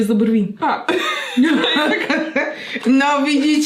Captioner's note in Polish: śmiech